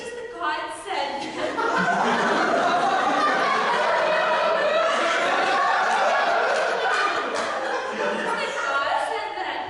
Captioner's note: audience laughter